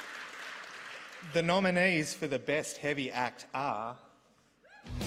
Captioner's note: applause